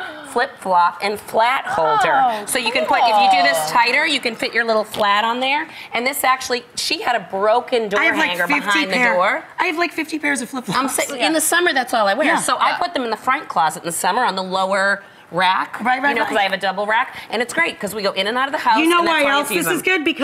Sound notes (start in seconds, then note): 1.9 light applause